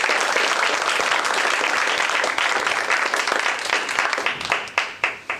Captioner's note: applause